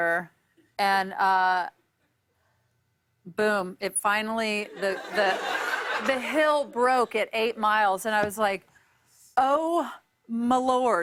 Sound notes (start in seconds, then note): 4.7 laughter